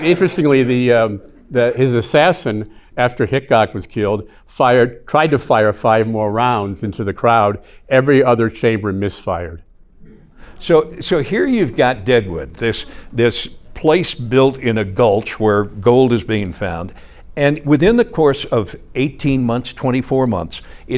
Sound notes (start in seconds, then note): 9.8 audience chuckling